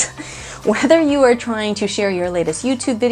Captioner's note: laughing